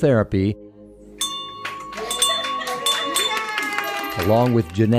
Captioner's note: bell ringing